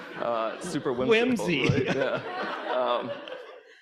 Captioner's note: audience laughing